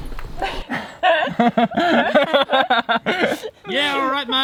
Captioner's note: laughs